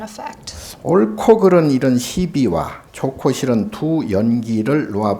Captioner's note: speaking Korean